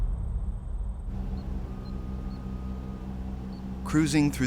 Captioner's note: device beeping